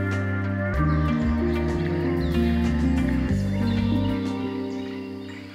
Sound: birds chirping

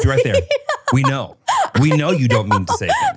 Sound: laughs

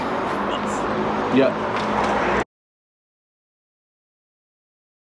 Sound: train squeals

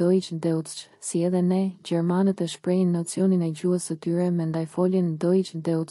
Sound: deutsch

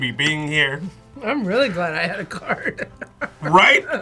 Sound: laughs

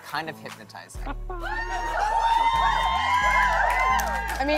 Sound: cheers and applause

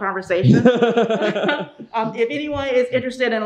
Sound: laughing

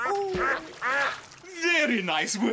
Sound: splash!; quacking!

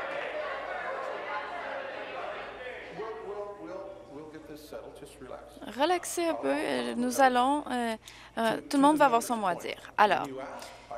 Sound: applause

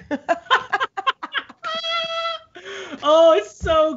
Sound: both laugh

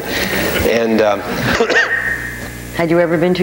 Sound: audience laughing

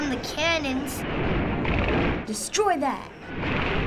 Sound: cannons firing

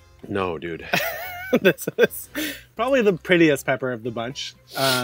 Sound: laughs

